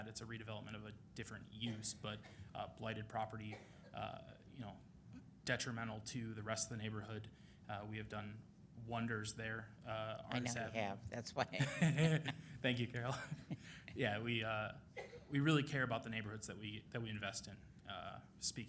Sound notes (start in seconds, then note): 11.4 laughing; 11.4 laughs